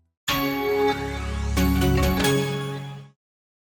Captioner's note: Intel bong